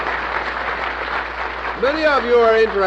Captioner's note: applause